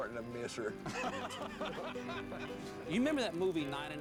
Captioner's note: men laugh